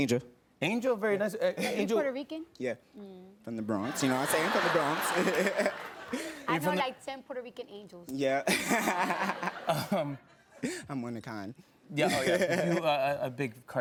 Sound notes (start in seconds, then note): 8.4 laughter